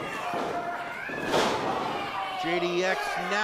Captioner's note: bang